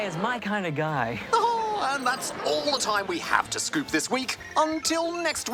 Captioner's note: chuckles